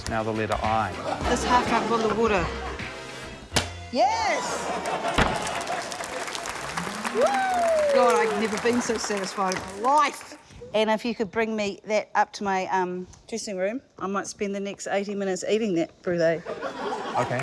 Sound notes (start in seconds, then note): 6.4 applause